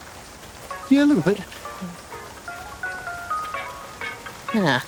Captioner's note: phone rings